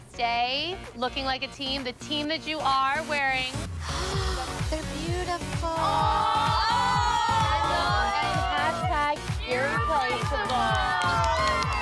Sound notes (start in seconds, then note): 4.1 gasps